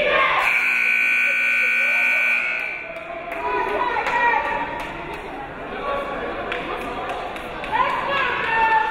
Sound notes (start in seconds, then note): 0.4 timer buzzing